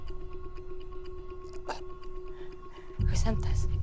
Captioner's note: stutters